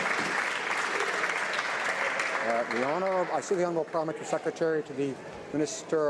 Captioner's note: some Applause